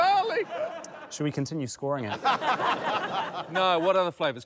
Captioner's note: laughter